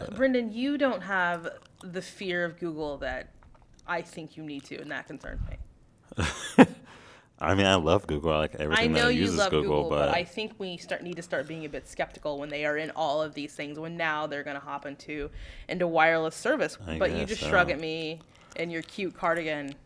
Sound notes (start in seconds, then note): 6.1 laugh